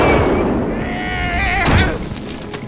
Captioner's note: Gaylord_Steambath screams